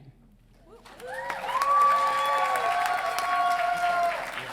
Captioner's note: audience cheering